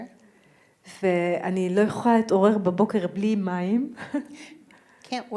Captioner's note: speaking in foreign language